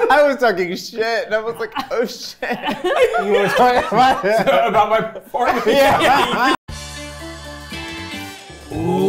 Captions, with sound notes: - I was talking shit and I was like, "oh shit." (everyone laughing)